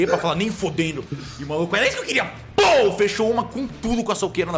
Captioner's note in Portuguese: pow